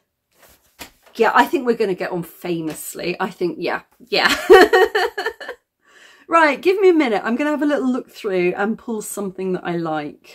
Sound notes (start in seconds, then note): 4.2 laughing